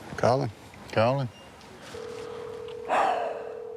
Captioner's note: phone ringing; sighs; phone ringing